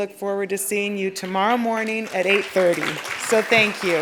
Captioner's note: applause